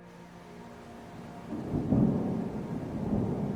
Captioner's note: rain and thunder